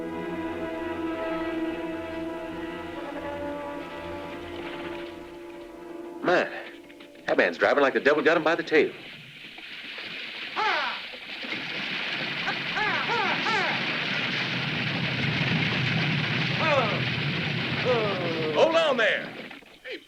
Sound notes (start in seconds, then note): 0.3 tense music; 10.6 driver shouting; 10.6 wagon rattling